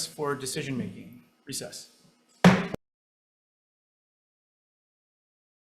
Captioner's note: gavel bangs